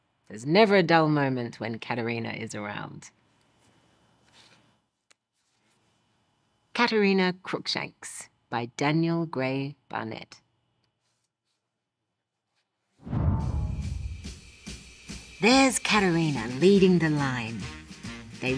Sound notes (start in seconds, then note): 13.0 logo swooshes; 13.6 upbeat music